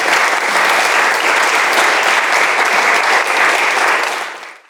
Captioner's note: audience applauds